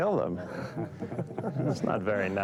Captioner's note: men chuckling